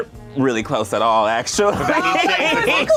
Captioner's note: laughs